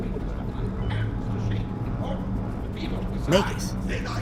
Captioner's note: muffled voices speaking through spectrometer